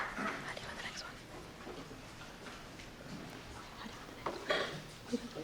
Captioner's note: presenters whispering